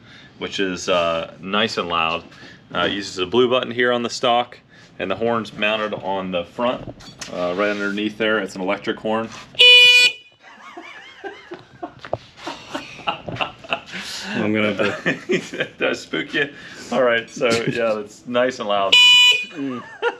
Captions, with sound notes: which is nice and loud; it uses the blue button here on the stock, and the horn is mounted on the front right underneath there; it’s an electric horn. *BEEEEEEP* *laughter* Did I spook ya? So yeah, it’s nice and loud.